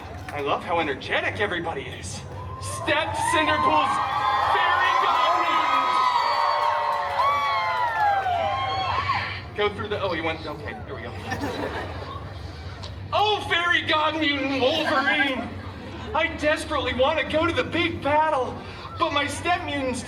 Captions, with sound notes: I love how energetic everybody is. Stepped Cinderpool’s fairy-god mutant! [guests cheering] Go through the— Oh. You went— okay. Here we go. [guests chuckling] Oh, fairy god-mutant, Wolverine! I desperately want to go to the big battle, but my step mutants